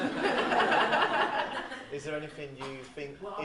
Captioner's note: audience laughs